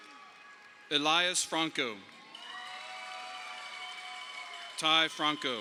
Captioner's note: audience applauding